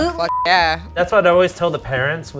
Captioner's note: beep